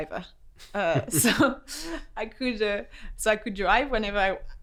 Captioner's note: laughs